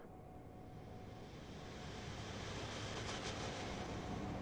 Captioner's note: train rumbles in distance